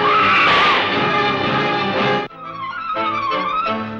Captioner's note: screams